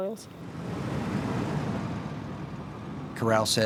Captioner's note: truck driving up